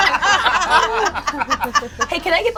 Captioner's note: all laugh